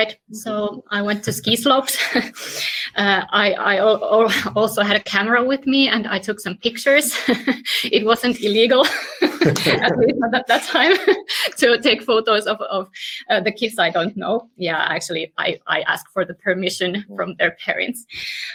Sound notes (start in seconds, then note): 9.3 laughs